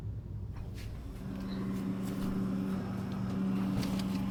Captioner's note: fridge humming; feet shuffling